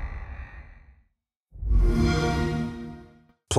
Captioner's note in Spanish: xbox sound